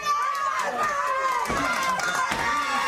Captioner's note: crowd chatter; crowd cheering